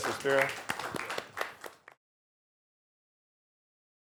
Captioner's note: applause